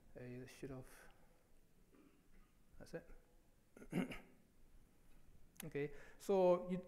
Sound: coughs

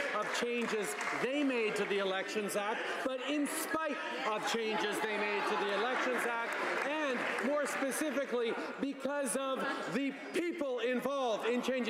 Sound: applause

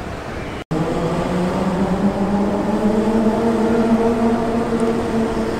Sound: car engine humming

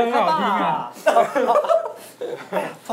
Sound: laughing

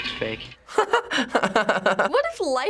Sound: chuckles

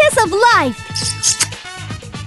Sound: Smooch

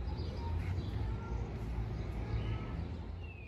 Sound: bird song

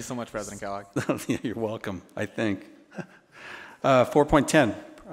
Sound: laughs

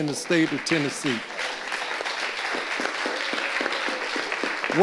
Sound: audience applauding

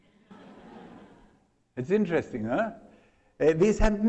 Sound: laughter

